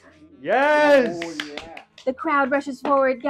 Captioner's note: clapping